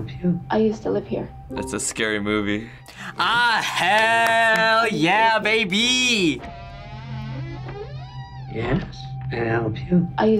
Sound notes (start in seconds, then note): 7.2 door creaking